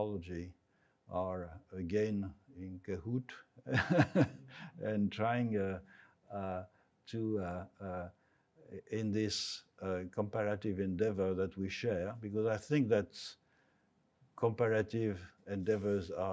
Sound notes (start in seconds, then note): 3.7 laughs